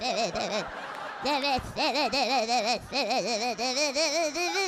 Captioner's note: audience laughing